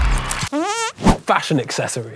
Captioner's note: crowd cheers; farts